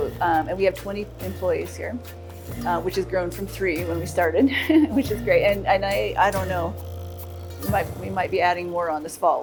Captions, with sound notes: and we have 20 employees here, which has grown from three when we started (laughs), which is great, and I don't know. We might be adding more on this fall.